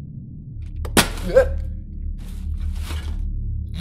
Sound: flashlight hits ground

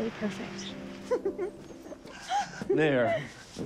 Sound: anna giggling

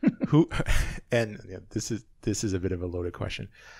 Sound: laughing; laughs

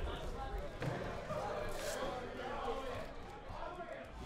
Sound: players murmur

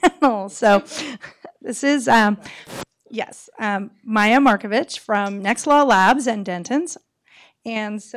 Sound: laughter

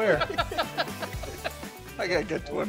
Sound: laughing

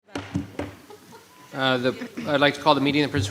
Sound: gravel bangs

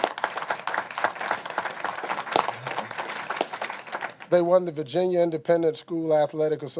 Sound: applause

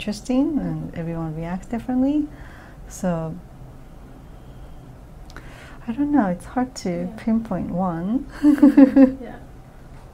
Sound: laughs

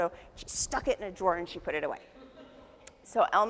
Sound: audience laughs

